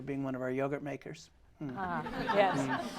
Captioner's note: laughter